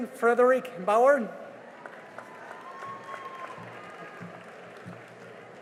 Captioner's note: cheering and applause